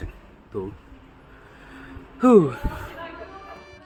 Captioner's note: a "bit tired" sound